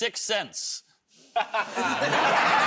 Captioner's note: laughter; laughs